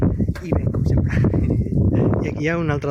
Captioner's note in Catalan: Riu